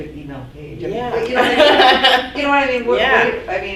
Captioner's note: laughing